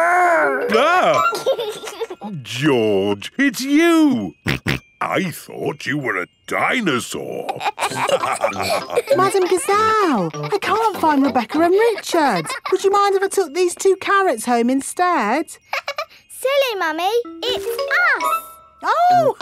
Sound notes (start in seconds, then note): 0.0 exclaims; 0.5 giggles; 4.5 snorting; 7.5 all laughing; 16.0 laughs